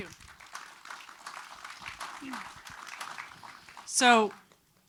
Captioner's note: attendees applauding